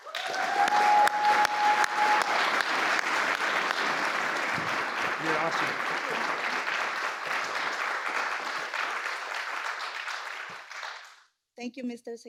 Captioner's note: applause